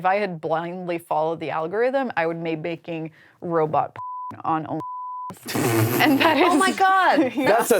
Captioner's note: beep